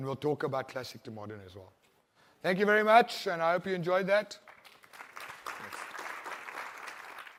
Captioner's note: applause